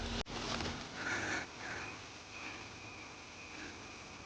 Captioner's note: whimpering